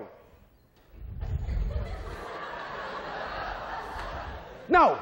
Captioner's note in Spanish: estudiantes se ríe